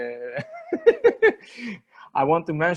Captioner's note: laughing